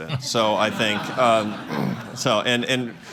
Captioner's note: laughter